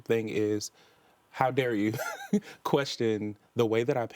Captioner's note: chuckles